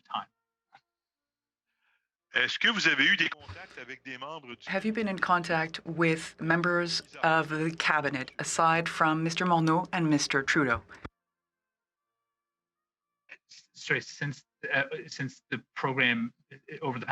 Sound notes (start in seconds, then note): 8.7 speaking French